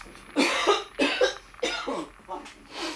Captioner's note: Tyler coughing